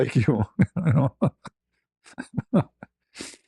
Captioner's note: ketawa